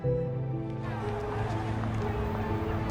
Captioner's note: crowd talking